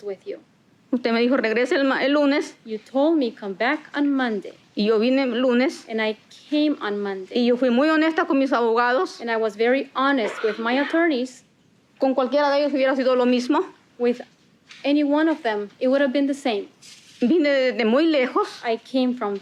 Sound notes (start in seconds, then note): 6.6 speaking Spanish; 12.9 spanish continues